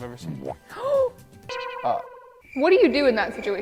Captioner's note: gasps